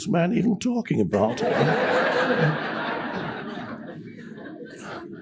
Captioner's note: audience laughs